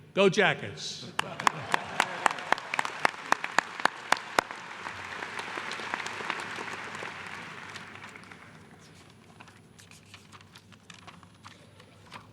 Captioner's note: applause